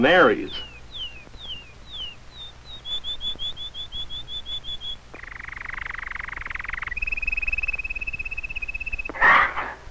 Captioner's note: birds singing softly; parrot squawks